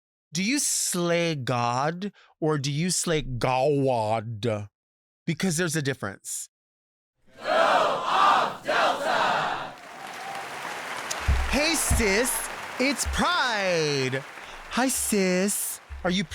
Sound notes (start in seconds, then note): 7.7 crowd; 10.2 audience applauding